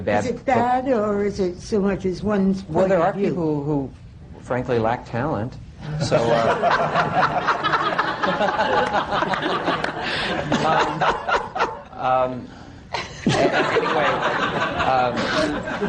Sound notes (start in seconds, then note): 9.8 laughter